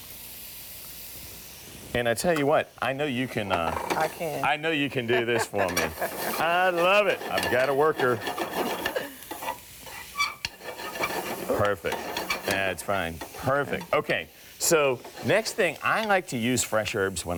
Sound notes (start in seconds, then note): 4.9 laughs; 8.2 metal scraping